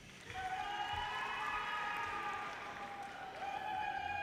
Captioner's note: audience cheers